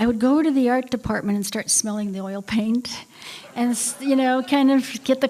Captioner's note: laughter